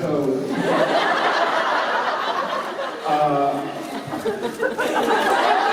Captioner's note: laughter; cheers and laughter